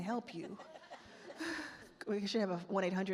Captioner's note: attendees laugh